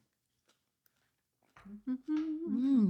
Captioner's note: humming